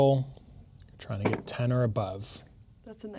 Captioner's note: dice rolling